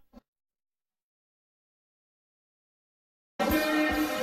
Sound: silence

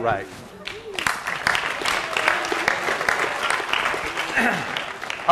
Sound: class applauding

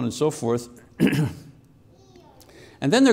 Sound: clears throat

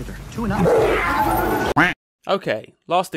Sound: duck quacks

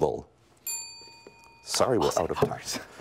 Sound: bell rings

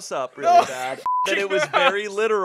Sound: beep

